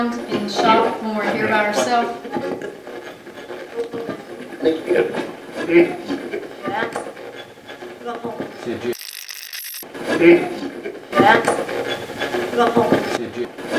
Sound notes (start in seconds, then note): 3.0 radio channel changing; 9.0 radio scratching; 13.5 radio voices